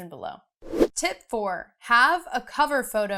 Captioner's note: air whooshing